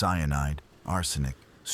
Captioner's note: wind Blowing